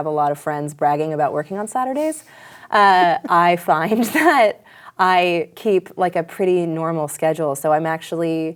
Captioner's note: laughs